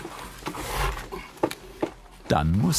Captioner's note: labored breathing